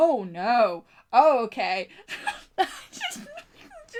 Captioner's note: laughs